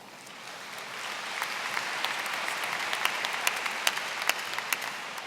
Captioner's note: applause